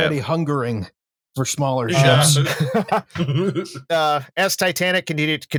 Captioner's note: laughter